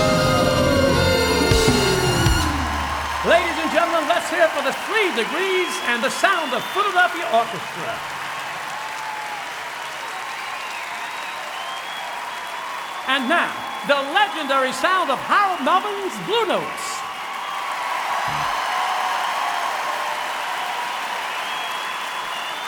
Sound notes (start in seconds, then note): 11.6 applause; 13.1 cheering